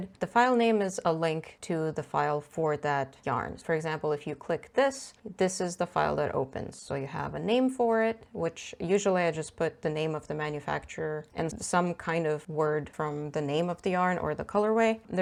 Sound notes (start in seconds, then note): none